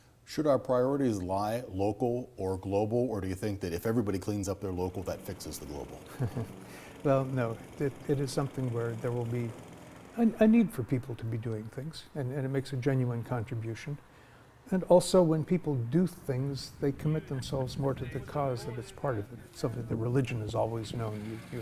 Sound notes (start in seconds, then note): 5.7 laughs